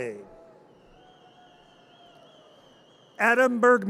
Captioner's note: audience cheers